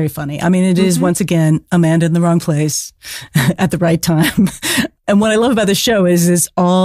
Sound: giggle

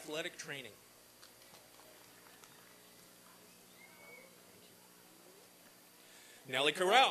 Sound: applause and cheering

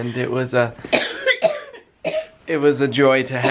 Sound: coughing

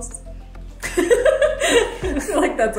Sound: laughs

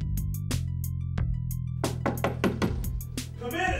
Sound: door knocking

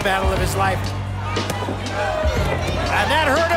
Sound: cheering

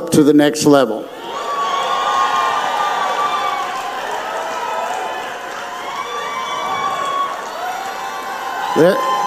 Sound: audience cheers

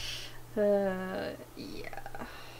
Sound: sighs

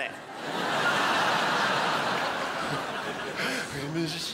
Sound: crowd laughs

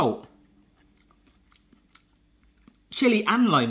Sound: chewing

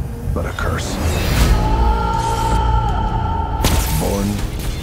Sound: screams

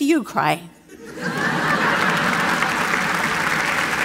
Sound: laughter

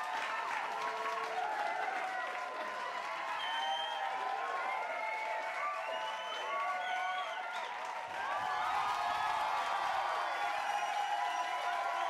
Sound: crowd cheering and clapping

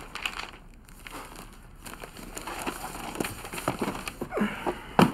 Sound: Jake chuckles

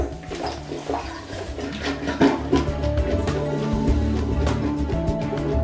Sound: plunger pumping

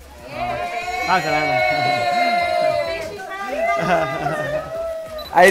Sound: crowd cheering

